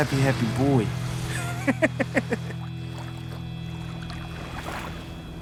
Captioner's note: laughs